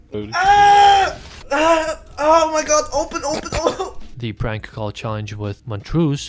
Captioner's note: cough